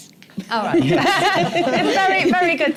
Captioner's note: laughter